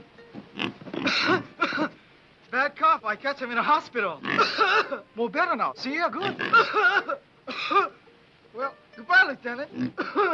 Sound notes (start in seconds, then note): 0.5 pig snorting; 1.0 Tommy coughs; 4.2 pig snorting; 4.3 Tommy coughs; 6.2 pig snorting; 6.2 Tommy coughs